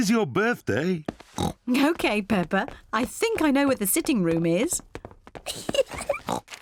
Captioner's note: oinks; giggles